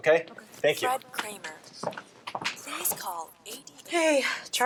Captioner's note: female, over P.A